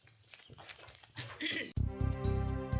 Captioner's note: throat clears; peppy upbeat music